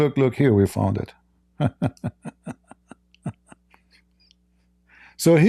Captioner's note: Ketawa